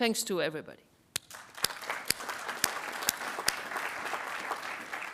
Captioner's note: attendees applauding